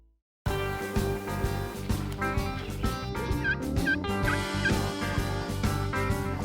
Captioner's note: upbeat music fading; upbeat music; turkey calling